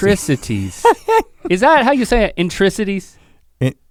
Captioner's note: Rhett chuckles